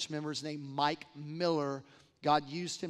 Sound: none

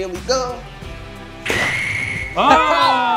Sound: hot dog exploding

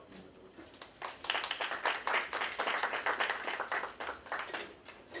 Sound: applause

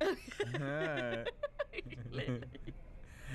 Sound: laughing

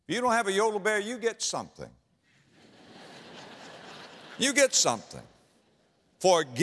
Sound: audience laughter

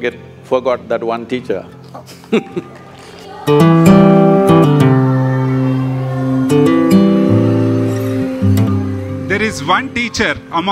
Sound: laughs

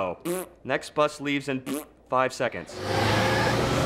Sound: raspberry

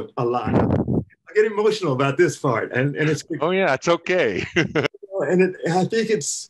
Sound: laughter

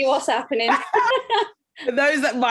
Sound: both laugh

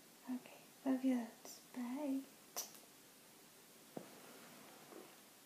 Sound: kiss

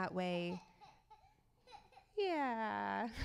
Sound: child cries

